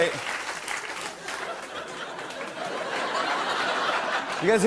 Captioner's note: laughter, cheers, applause